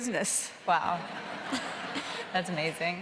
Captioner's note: audience laughing